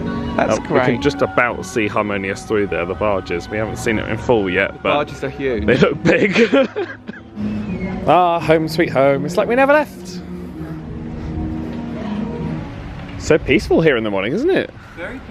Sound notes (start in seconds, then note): 5.6 laughing; 11.6 gentle music